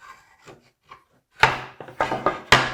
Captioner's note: marking-gauge on wood scraping; plank on desk clunking